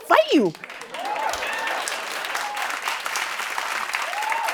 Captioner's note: cheers and applause